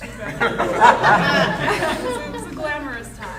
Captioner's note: audience laughing